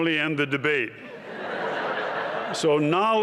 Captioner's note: laughter